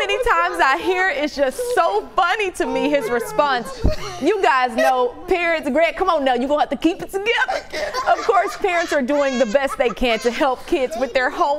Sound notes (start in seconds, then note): 7.6 laughter